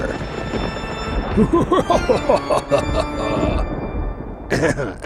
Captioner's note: evil laughter